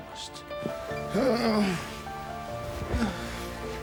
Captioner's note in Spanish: gemidos